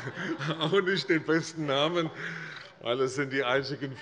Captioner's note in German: Heiterkeit - : Sehr gut!